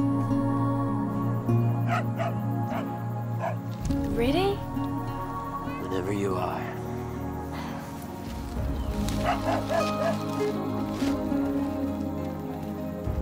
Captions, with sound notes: (soft music) (dog barking) - Ready? - Whenever you are.